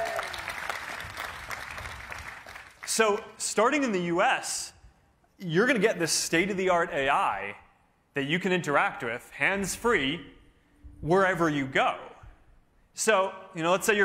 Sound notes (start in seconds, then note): 1.8 cheering